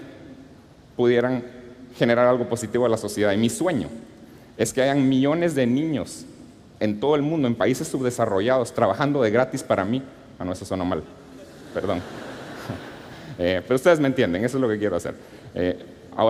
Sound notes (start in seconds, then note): 11.4 laughter